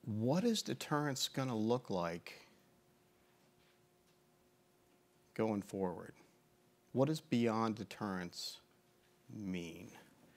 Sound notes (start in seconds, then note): none